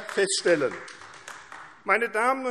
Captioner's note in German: Beifall AfD